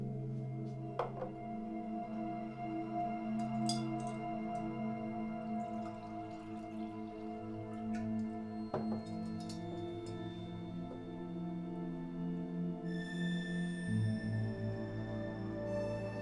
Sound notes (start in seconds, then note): 2.0 threatening ambient music; 5.9 juice poured